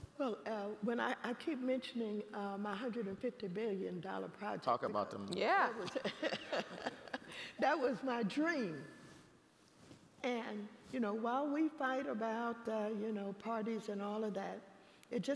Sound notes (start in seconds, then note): 5.9 laughing